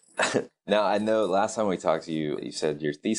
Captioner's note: laughing